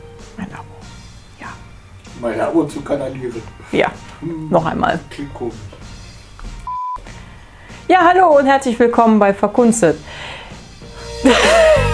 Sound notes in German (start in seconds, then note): 2.0 Aus dem Off; 5.1 Aus dem Off